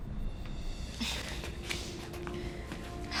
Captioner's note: both gasping